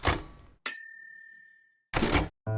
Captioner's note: typewriter tapping; bell dinging; typewriter carriage return